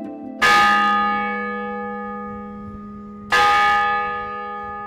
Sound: bell tolls

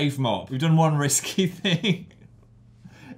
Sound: laughs

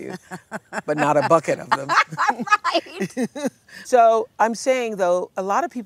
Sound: laughter

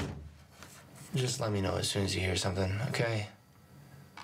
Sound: door closes

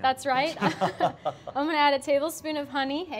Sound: both laugh

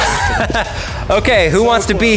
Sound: laughing

